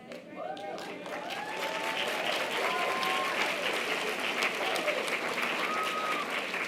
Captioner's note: audience applause and cheers